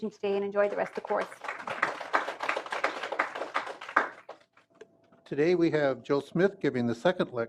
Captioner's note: applause